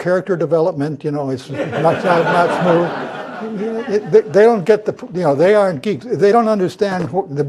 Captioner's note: laugh